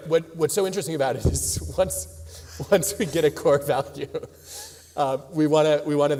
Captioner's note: laughs